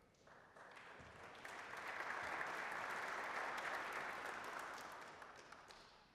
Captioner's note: applause